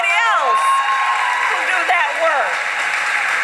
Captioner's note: applause